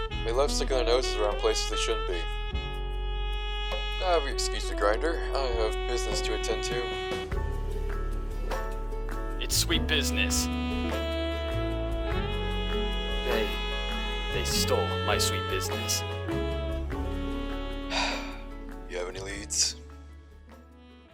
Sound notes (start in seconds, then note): 17.9 sigh